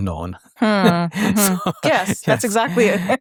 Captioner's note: chuckles